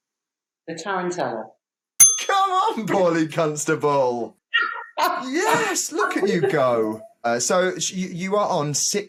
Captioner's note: bell dings